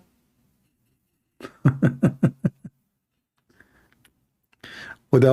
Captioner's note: Ketawa